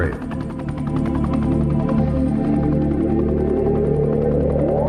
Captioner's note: helicopter chuffing